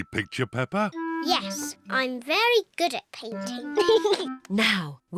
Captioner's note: giggles